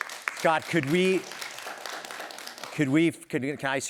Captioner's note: applause